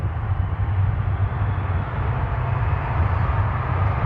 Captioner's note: fans cheering